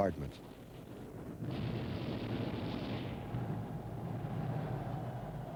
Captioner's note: explosive blows